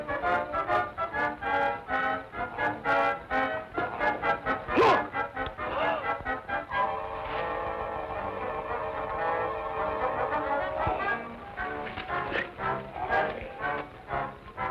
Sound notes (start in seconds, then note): 5.6 Tom gasps; 5.6 tense music